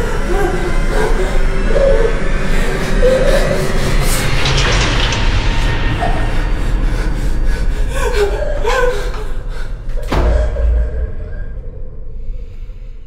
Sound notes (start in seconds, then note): 0.1 foreboding music; 7.6 surprised gasping; 9.9 door slams